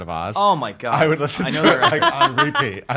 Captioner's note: laughs